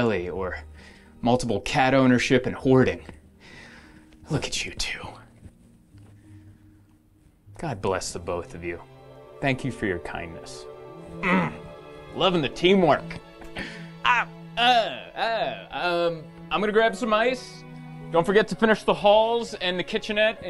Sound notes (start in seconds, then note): 11.2 grunts; 14.0 groans